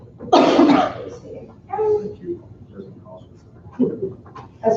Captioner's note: muffled conversation